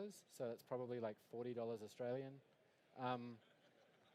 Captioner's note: laughter